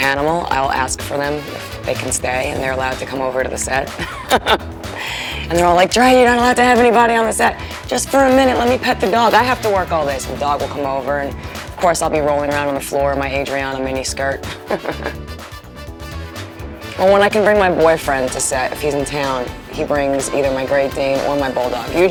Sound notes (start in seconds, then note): 4.9 laughs